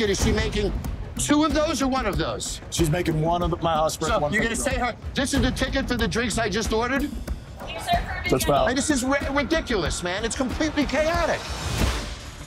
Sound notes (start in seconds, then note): 7.6 employee yells in background; 12.2 intense music